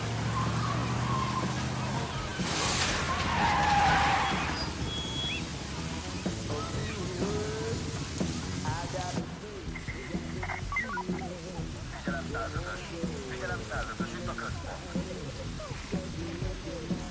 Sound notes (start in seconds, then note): 2.6 tires screech; 8.7 police radio chatter